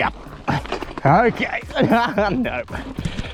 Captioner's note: laughs